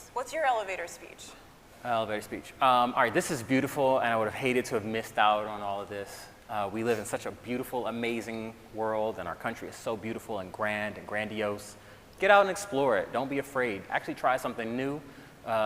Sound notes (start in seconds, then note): none